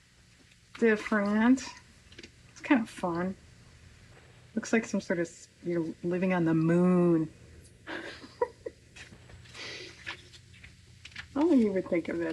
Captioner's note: laughs